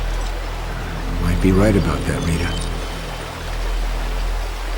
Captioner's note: none